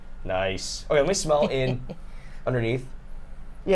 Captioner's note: snickers